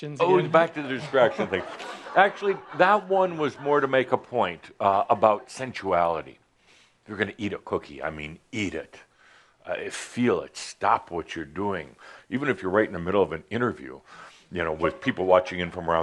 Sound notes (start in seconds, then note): 0.0 laughter; 0.6 more laughter